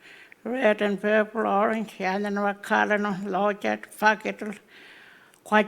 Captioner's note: speaking Anmatyerr; speaking Anmatyerr